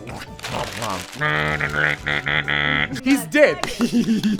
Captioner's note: robot noises